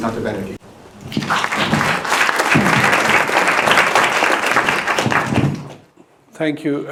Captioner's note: lively applause